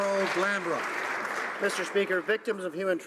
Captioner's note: some Applause